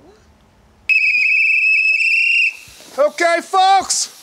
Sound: whistle blaring

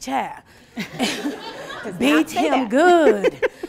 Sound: laughing

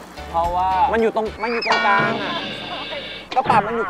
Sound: klang

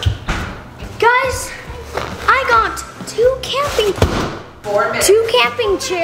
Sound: chairs clanking

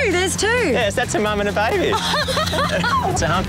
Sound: laughs

